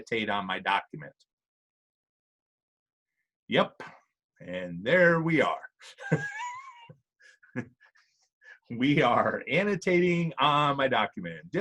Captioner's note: laughs